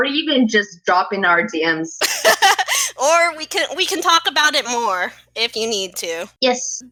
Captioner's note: laugh